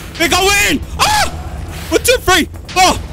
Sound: screams

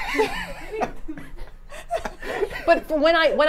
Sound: both laugh

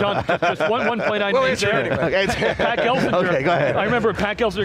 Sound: laughing

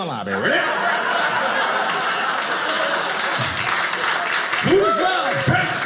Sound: audience laughing

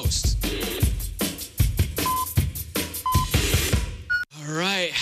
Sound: electronic beeping

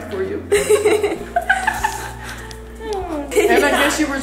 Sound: laughing

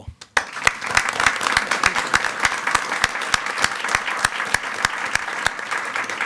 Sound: board members and attendees applaud

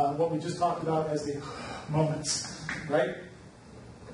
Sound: gasps

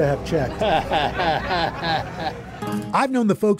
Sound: chuckles

